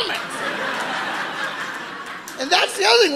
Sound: audience laughing

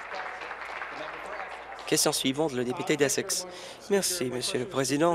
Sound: applause

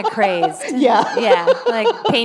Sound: laughter

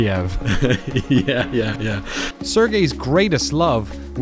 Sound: laughing

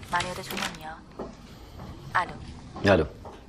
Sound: footsteps

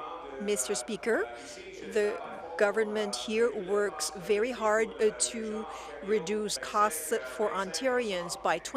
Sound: speaking in French

